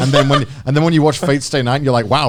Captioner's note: laughs